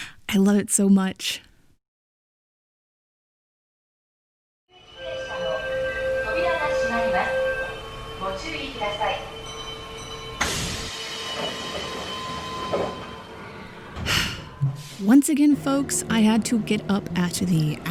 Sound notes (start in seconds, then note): 5.2 subway voice announcement; 10.4 doors closing; 14.0 sigh